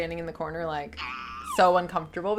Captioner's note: person screaming